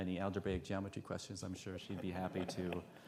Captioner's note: audience laughs